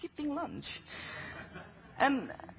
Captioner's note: laughing